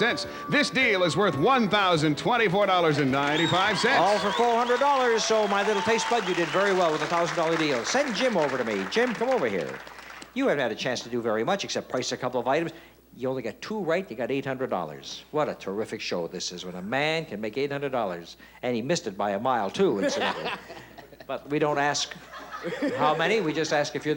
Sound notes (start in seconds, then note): 20.0 laughs